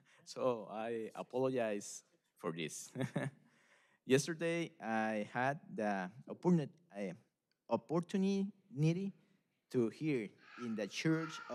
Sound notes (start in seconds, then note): 2.8 laughter